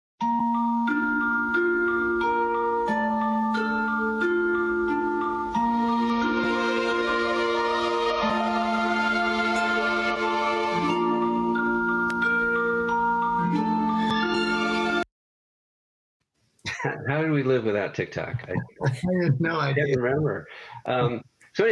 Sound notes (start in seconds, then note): 18.1 laughs